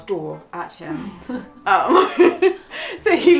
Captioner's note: laughs